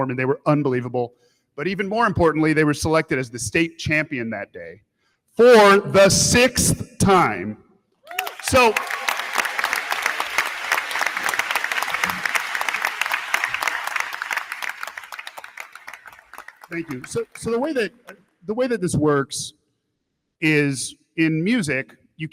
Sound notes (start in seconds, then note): 8.0 crowd cheering; 8.1 crowd clapping